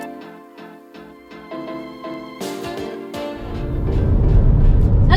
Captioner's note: music fades out into road noise